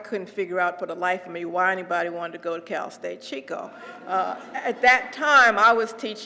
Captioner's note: laugh